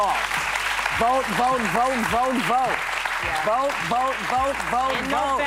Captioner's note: applause